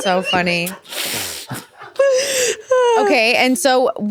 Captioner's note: sighing